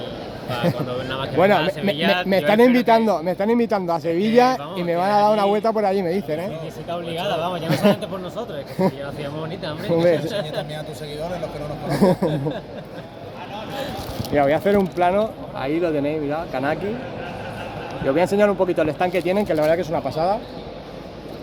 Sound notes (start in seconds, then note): 6.4 laughs